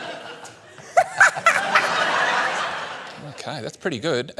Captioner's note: laughter